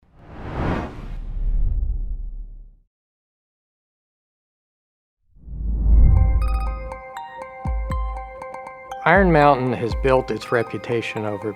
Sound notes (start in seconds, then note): 0.1 logo swooshing; 6.2 light music